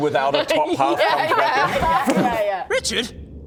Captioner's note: thud